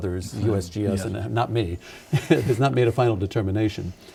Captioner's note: laughing